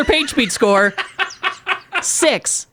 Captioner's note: laughs